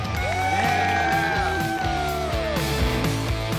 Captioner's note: cheering